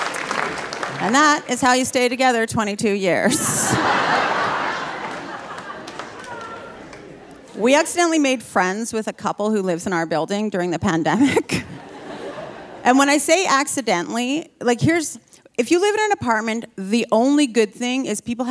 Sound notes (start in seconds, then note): 3.2 audience laughing; 11.5 laughing